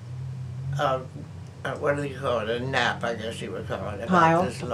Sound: laughs

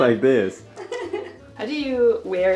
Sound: laughs

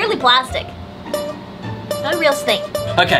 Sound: playful sound

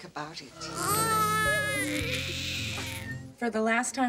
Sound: baby crying

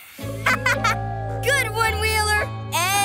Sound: laughing

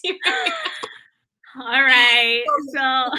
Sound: laughter

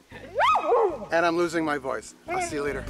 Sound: dog barks

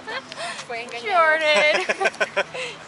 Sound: laughter

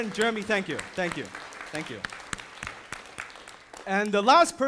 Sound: audience applauding

